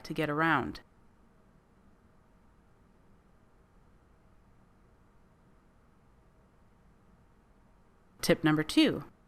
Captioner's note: silence